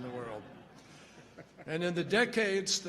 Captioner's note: laughter